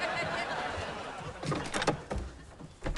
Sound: rattles door knob

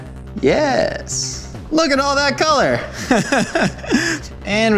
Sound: laughing

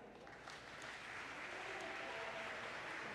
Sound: applause

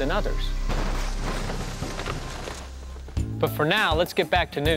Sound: car crashing

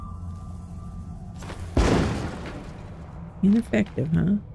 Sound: explosion

